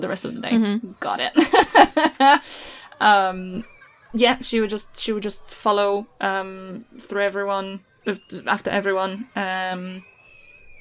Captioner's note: laughs